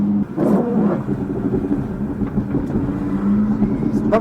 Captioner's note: clunking